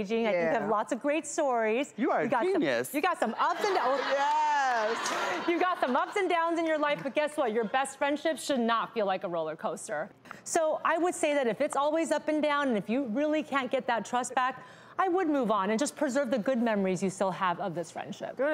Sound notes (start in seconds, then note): 3.5 audience laughing